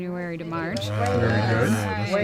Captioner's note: unison group approval